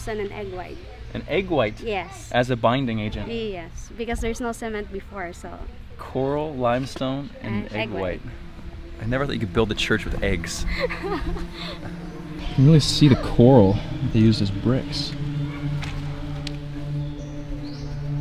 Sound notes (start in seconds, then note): 11.1 laughing; 15.4 haunting music